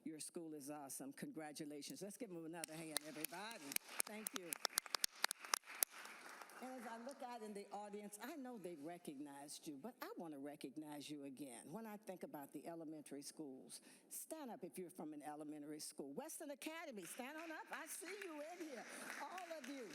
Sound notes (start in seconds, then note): 8.5 applause